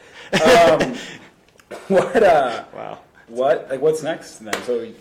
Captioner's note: laughing